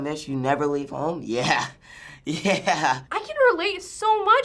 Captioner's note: laughing